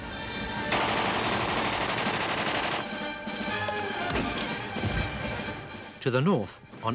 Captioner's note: dramatic symphonic music; guns firing